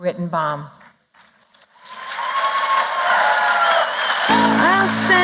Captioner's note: applause, cheering